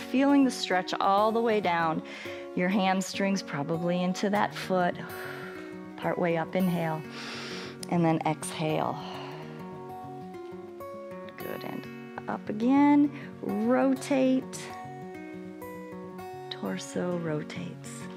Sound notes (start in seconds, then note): 5.1 exhales; 7.1 inhales